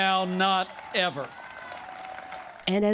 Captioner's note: cheering and applause